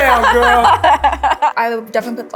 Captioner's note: laughs